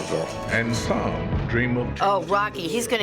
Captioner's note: voice-over